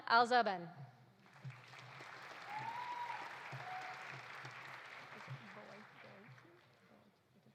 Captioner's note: audience applauding; audience cheering